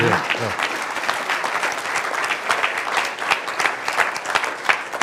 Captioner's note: applause